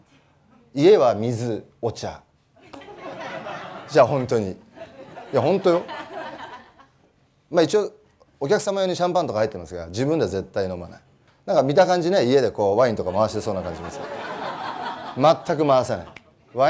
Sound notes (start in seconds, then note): 3.6 laugh